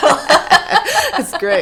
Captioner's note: laughing